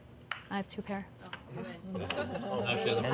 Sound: laughter

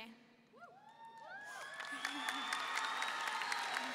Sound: audience cheering

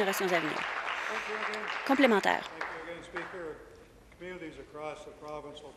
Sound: applause

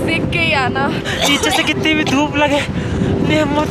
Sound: cough cough

